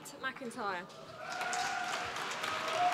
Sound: applause

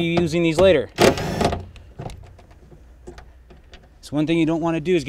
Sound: drill buzzing

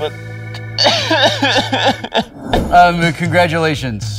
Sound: dramatic sobbing

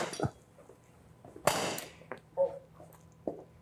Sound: gunshots

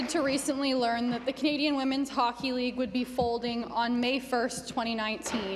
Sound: some Applause

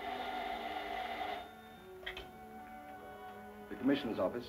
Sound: phone ringing

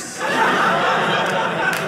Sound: audience laughing

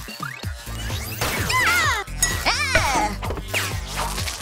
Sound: squealing

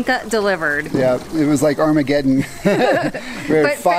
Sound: laughing

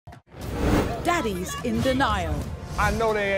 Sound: voiceover

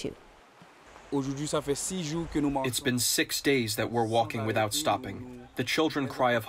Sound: through translator

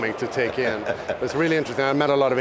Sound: laughing

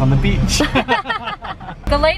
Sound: laughter

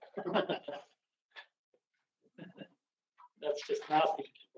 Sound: laughing

